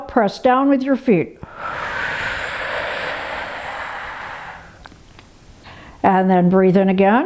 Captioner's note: exhales sharply